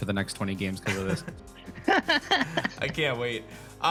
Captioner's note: laughs